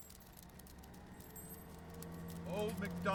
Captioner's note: dog claws tapping; diesel engine roaring